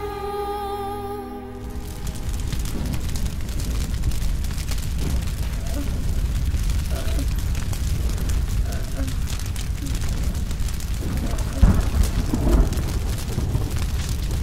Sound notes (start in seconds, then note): 1.1 fire burning